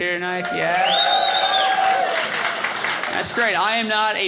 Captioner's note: audience cheering